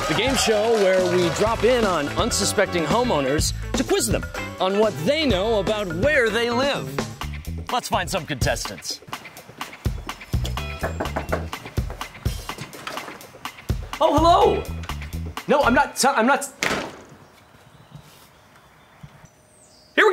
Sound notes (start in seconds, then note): 10.4 knocking; 16.6 door slamming